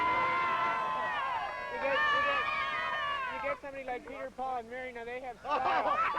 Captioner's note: crowd cheering